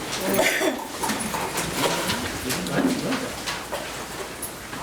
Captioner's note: soft chattering